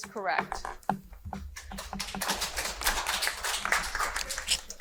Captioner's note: audience applauding